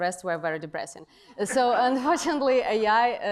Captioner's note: laughter